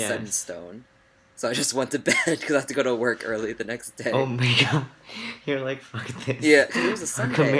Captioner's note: laughs